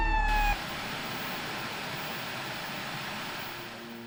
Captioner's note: static hisses